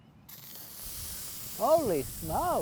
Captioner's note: fizzing